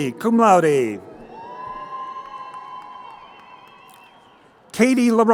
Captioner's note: crowd cheering